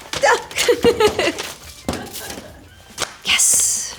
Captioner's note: Marisol laughing; woman laughing; Marisol reading fan letter aloud